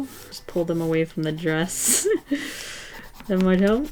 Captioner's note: chuckles